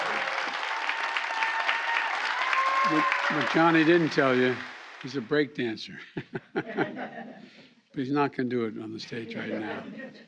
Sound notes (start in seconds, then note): 6.1 laughs